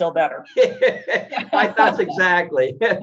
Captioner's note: both laughing